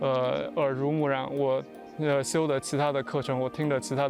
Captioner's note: speaking chinese